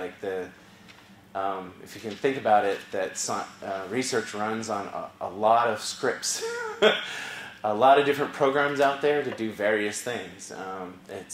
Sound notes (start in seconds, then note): 6.4 laugh